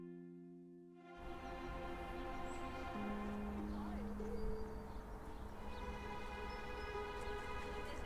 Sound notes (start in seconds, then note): 1.2 birds chirping